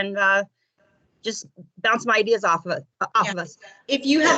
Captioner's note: coughs